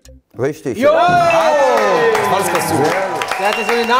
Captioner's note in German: Jubel, Applaus